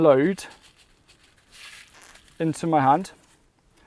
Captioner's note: seeds rattling